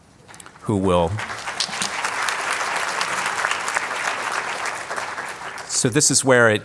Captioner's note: applause